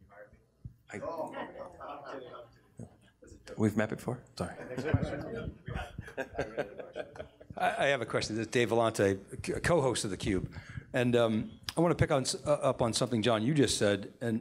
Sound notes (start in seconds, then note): 1.2 audience cringes; 4.7 all laugh